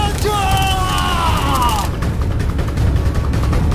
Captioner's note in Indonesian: berteriak